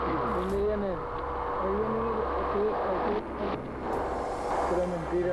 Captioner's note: speaking in Spanish; passenger speaking in Spanish; speaking in Spanish